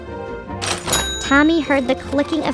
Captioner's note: cash register dinging